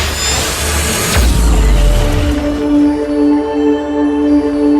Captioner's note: light zaps